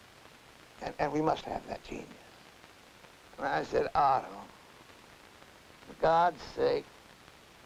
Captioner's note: none